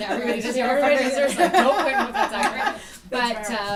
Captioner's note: laughter